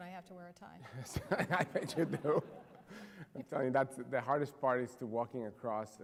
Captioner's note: laughter